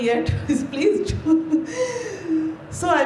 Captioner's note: chuckles